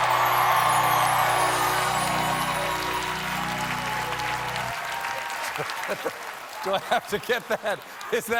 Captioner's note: cheers and applause